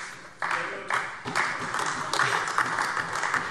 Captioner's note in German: Beifall AfD